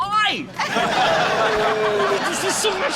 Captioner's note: laughter